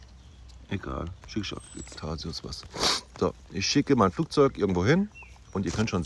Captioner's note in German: schnauben